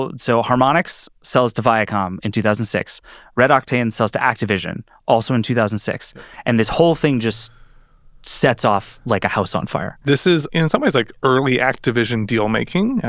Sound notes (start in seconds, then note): none